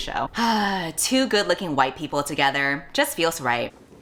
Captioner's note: sighs